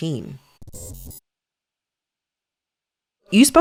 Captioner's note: soundbite of electronic scratching sound